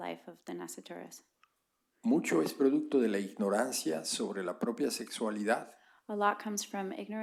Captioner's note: spanish